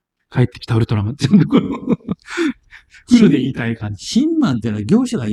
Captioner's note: laughs